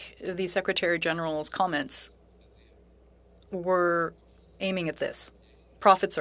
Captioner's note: speaking French